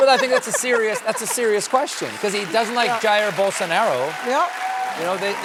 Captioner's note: cheering and applause